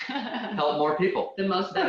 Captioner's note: laughing